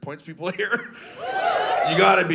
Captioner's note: audience cheering